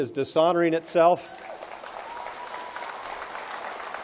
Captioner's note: applause